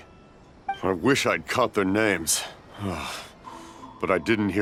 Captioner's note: sigh